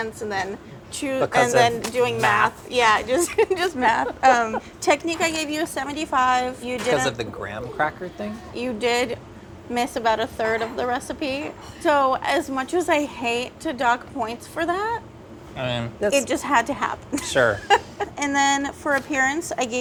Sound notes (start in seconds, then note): 4.1 laughing